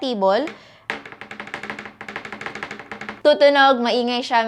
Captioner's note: wobbling sounds